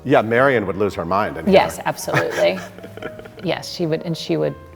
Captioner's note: laughing